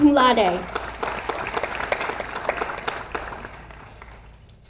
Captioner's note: audience applauds